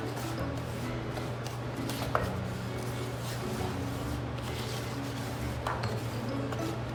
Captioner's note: stirring ingredients